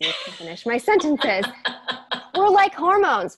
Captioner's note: laughing